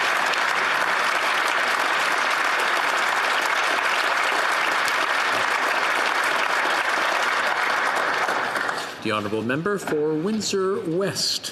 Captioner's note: applause